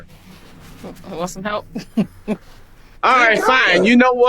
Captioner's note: woman chuckling